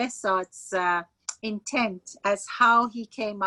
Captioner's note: speaking Farsi